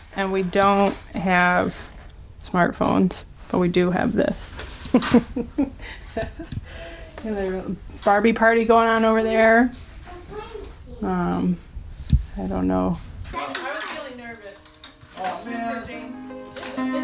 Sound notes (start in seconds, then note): 4.8 laughs